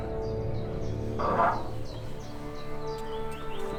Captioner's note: door opening